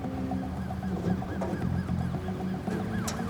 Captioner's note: distant siren wailing